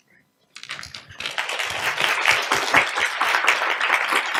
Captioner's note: audience applauds